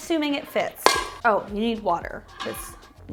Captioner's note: metal clank sound